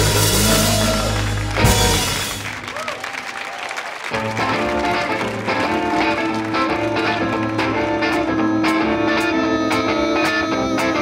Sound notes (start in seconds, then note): 0.2 audience applauds; 4.1 energetic music